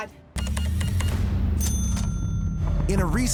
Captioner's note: cash register beeping, dings